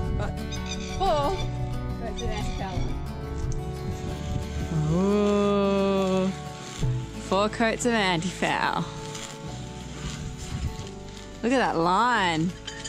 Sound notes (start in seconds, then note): 4.7 low grunting noise